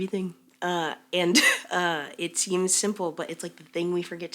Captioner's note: chuckles